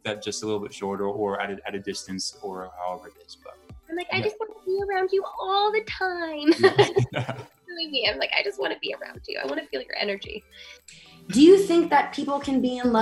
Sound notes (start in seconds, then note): 6.4 laughs; 6.6 mumles